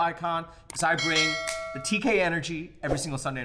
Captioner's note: bell ringing